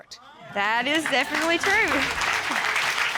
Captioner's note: audience exclaiming; audience applauding